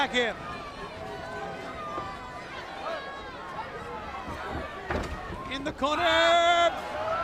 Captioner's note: crowd chatter